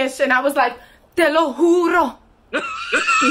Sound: speaks dramatically

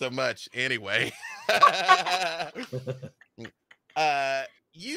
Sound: laughs; laughing

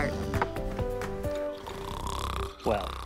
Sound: snoring

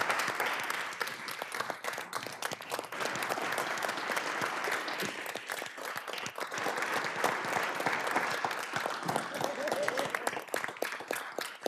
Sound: applause

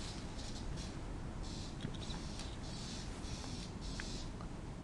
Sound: squeaky sounds

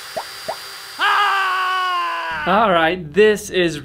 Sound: emoji screaming

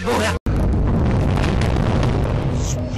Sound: castle crumbles

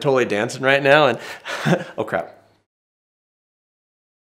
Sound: laughs

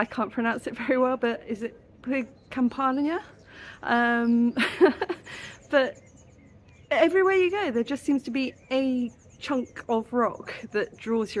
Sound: laughing

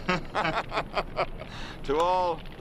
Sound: laughing

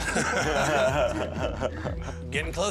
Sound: laughter

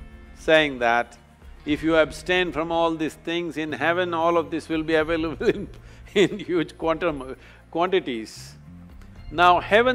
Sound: laughs

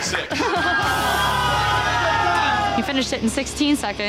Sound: patrons awwing

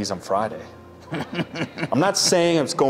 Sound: laughing

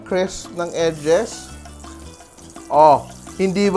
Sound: oil sizzling

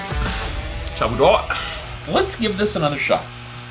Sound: speaks Chinese

